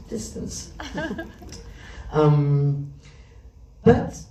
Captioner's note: laughs